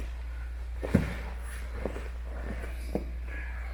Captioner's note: stomping